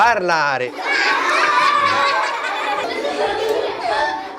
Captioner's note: children laughing